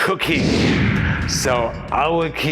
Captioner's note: fire whooshing